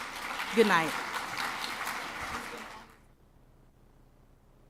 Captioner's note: clapping